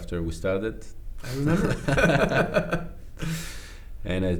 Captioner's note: both laugh